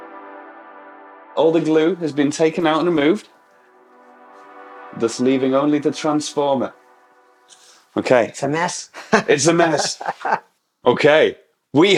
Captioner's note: chuckle